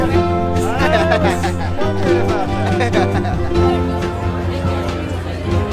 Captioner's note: bartender laughing